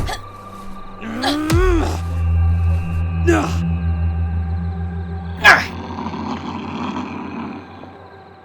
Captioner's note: Vivian and Jackson grunt